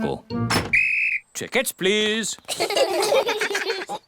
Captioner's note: blows whistle; all laugh